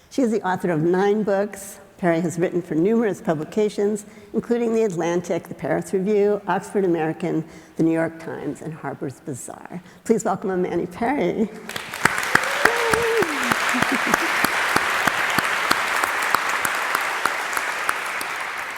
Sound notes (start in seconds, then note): 11.6 audience applauding